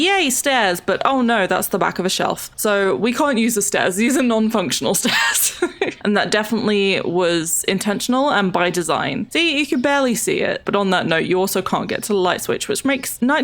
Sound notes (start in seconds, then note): 5.0 laughs